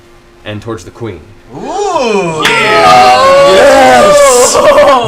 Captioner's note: cheering